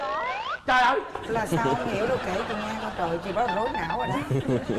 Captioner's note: laughing